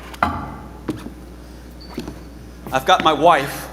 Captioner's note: boots squeaking; bottle thuds